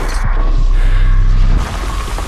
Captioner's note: metal squeaking; man breathing audibly; gravel crunching